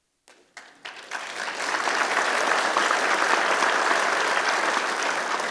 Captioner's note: applause